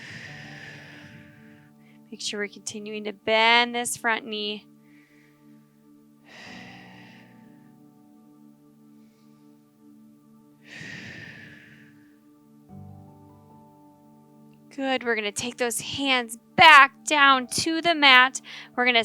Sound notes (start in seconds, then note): 0.0 exhaling; 6.3 sharp exhaling